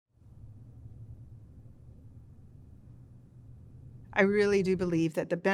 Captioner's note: silence